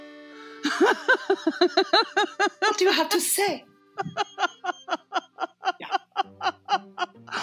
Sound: laughter

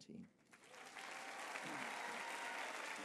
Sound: applause

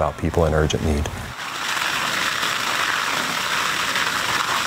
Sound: foam spraying

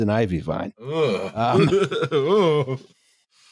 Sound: laughs

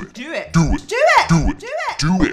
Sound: deep Altered Voice

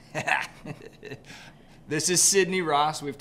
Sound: laughs

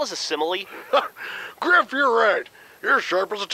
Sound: laughs

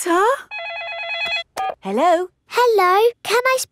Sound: phone rings

